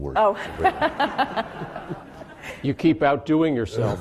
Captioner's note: laughing